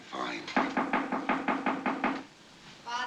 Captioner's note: knock on door